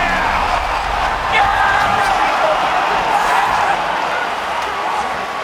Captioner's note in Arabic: تشجيع